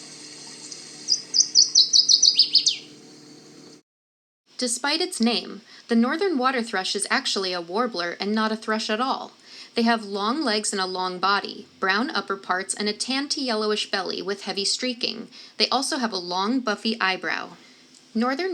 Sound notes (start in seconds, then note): 0.4 Northern Waterthrush singing